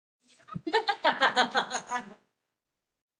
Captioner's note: laughs